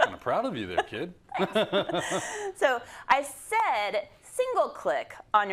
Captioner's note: laugh